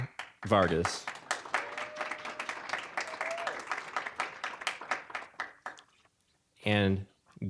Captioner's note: applause